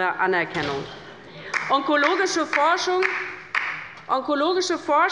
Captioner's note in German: Beifall bei der LINKEN